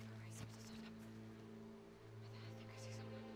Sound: whispering

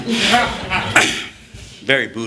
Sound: laughter

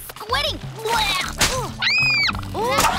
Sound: screaming

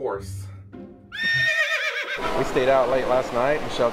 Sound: horse neighing

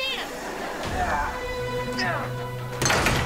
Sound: groaning

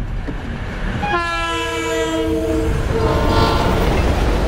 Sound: train horn

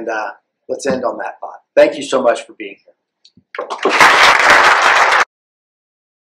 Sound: applause

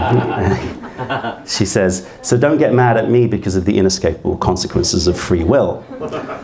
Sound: laughter; laughter

